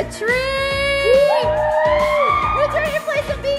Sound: all cheer

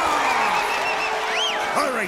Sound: cheers

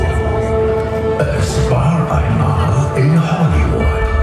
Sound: german

